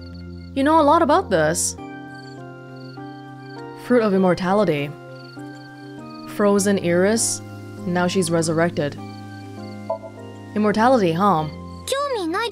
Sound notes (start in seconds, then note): none